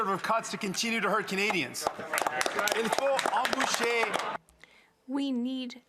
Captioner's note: speaking French